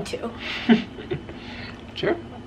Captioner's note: chuckles